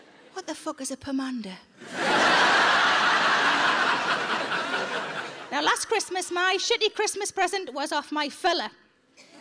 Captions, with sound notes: "What the fuck is a pomander?" (audience laughs) Now, last Christmas, my shitty Christmas present was off my fella.